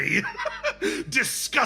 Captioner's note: laugh